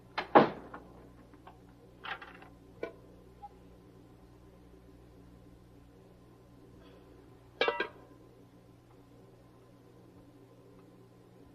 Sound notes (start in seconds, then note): 0.3 door closing; 7.6 dishes clinking